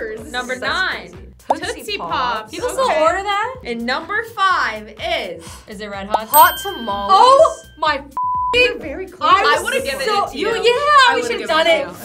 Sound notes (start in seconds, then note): 8.1 beep; 11.8 upbeat music